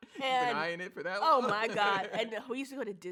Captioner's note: laughs